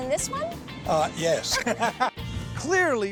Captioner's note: laughing